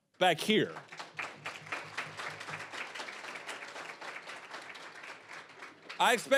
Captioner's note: applause